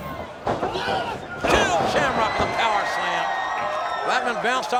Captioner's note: crowd cheering